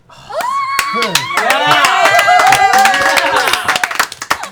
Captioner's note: cheering